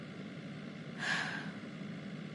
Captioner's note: gasp